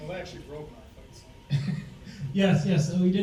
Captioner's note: laughs